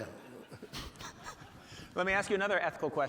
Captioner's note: audience laughing